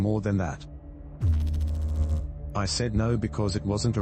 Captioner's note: electrical noise